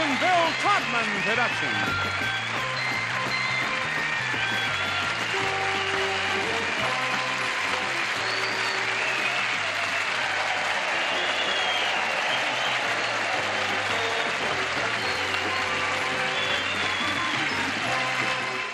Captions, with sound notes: Dare," a Mark Goodson, Bill Todman production. [cheering and applause]